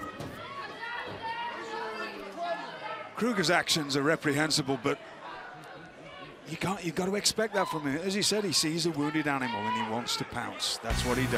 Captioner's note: crowd chatter